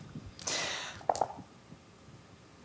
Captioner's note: dice rolling